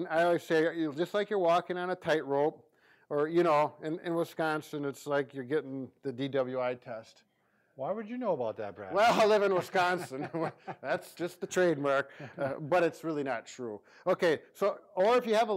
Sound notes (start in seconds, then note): 8.9 laughing